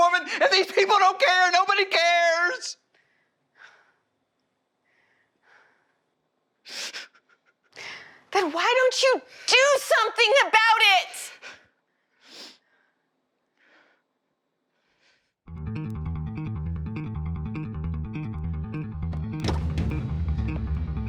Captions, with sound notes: And these people don't care! Nobody cares! [heavy breathing] Then why don't you do something about it?! [Tom sniffles] [intense music begins] [car door opens]